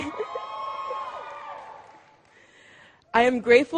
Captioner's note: cheering